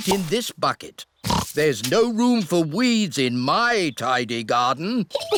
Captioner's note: oinks; both laugh